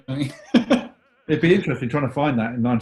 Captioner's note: laughs